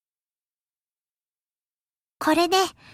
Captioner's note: silence